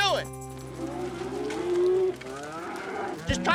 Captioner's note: mooing